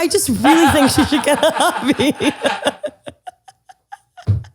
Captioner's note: both laugh